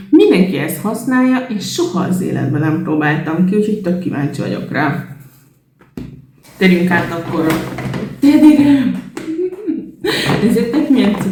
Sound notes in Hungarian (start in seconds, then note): 9.2 nevetés